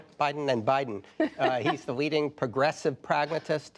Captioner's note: laughter